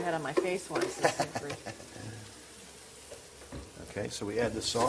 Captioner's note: laughter